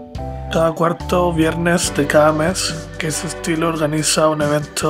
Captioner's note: narrator speaks Spanish